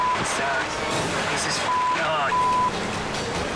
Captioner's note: beep